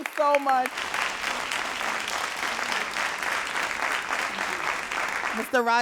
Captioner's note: all applauding